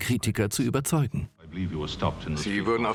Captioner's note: voiceover